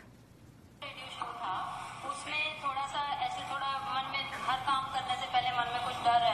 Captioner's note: audio recording of speaking in foreign language